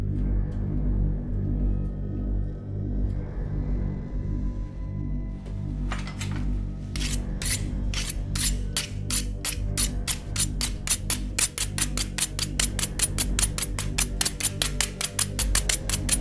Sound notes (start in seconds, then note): 7.9 knives clicking